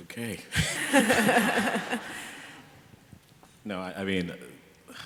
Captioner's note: laughter